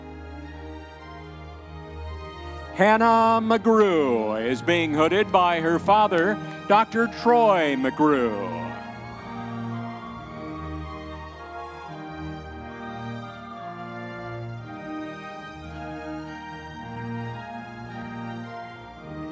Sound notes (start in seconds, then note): 9.2 audience members cheering